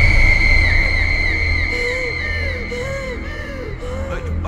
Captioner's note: breaths heavily